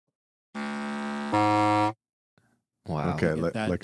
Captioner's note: buzzing